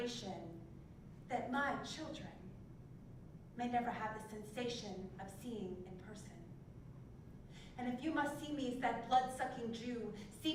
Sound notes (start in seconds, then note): none